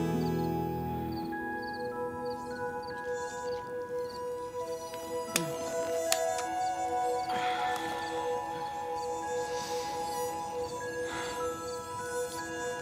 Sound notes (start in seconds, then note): 4.2 mosquitos buzzing